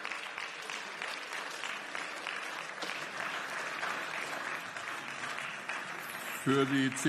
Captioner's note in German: Beifall